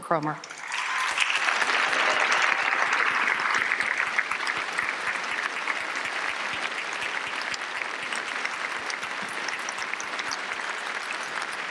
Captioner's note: applause